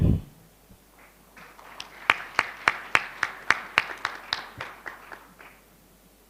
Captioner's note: applause